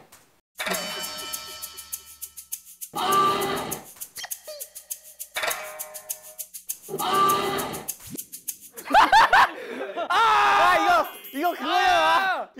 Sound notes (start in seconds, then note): 8.7 laughing